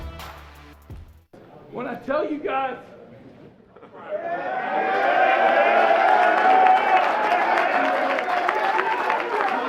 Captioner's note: cheers and applause